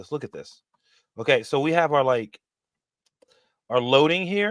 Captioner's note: none